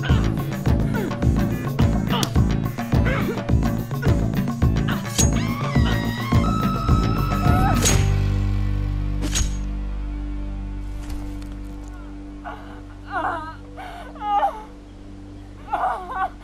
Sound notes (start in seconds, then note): 0.1 women grunting; 4.9 woman screaming; 7.6 knife stabbing; 13.2 women crying